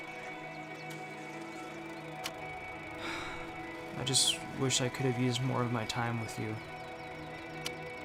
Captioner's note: sigh